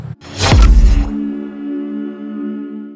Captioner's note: icon thudding